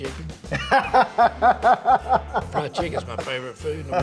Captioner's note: laughs